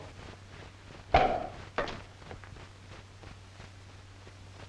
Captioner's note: cork pops